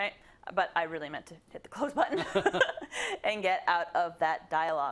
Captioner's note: laugh